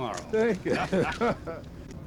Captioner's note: laughter